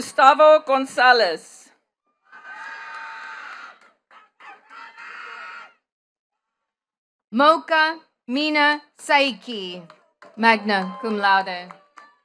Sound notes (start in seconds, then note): 2.2 attendees cheering and clapping